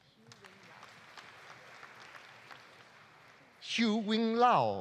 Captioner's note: audience applauding